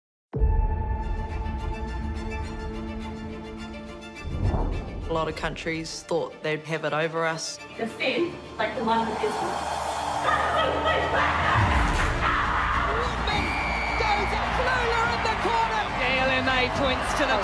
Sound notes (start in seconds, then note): 0.3 dramatic music; 8.9 team cheering indistinctly; 13.2 whistle blowing